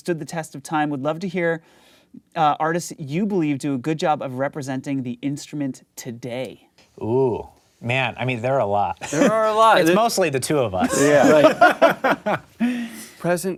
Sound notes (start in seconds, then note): 9.1 laughing